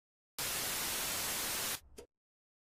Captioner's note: static